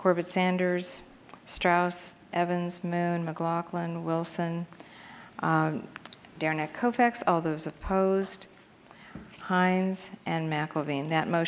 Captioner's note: counting